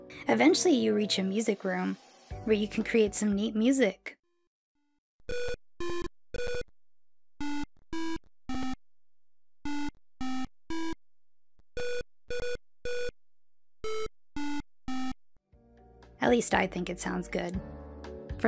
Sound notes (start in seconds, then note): 4.7 beeps and Boops